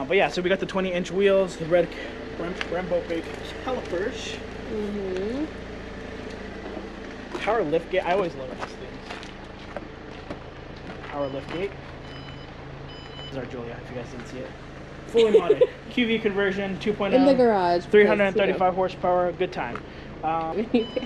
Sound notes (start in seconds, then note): 11.9 car beeps; 20.3 chuckles